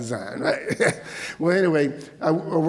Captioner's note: laughs